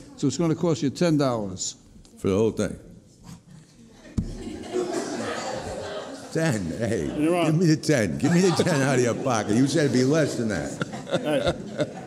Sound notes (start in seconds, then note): 4.3 gallery laughing; 11.9 laughing